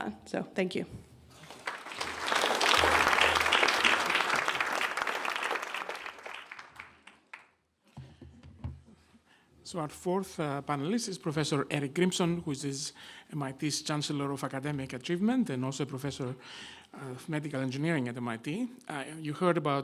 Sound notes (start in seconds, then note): 1.4 clapping